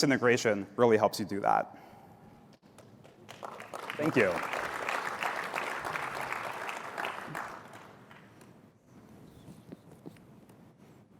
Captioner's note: applause